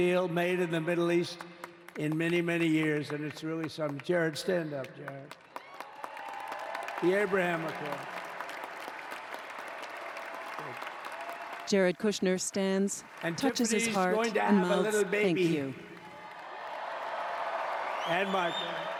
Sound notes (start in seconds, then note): 2.3 applause